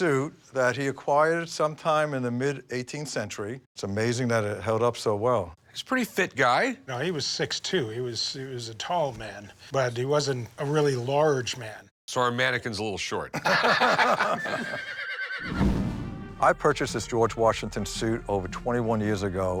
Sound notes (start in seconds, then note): 13.3 laughter; 14.2 horse neighs